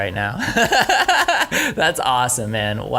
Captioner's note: laughing